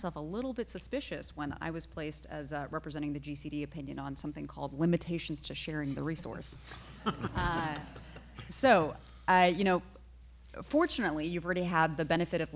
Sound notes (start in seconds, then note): 7.0 everyone laughing